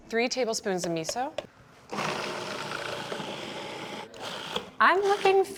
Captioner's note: food processor whirring